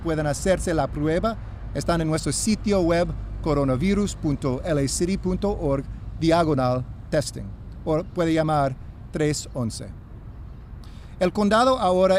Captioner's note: speaking spanish